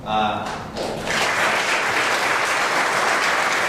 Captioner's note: applause